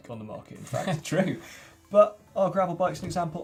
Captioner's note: laughs